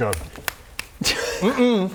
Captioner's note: sassy clicks